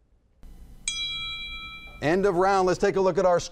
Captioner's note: bell rings